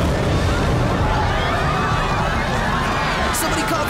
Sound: screaming

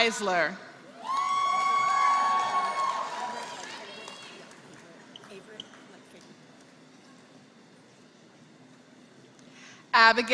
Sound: applause

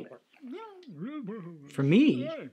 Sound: critters mumbling

